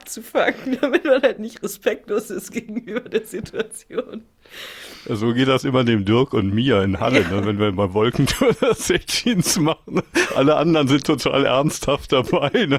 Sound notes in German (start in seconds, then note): 0.0 gelächter; 3.6 gelächter